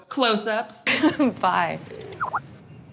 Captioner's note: chuckles